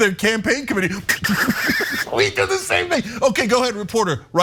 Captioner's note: laugh